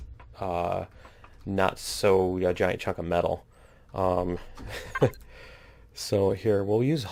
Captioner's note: laughs